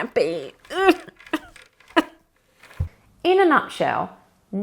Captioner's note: sobs dejectedly